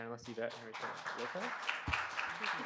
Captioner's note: audience clapping